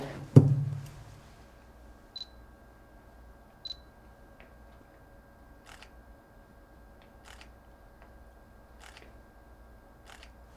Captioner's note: pauses 10 seconds